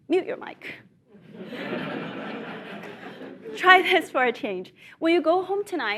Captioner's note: laugh